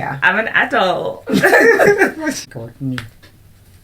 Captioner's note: laughter